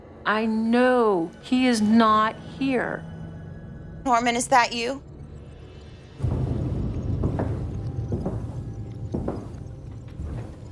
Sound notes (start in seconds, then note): 4.8 eerie music; 4.8 walking footsteps